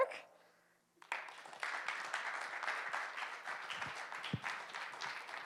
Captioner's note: audience applauding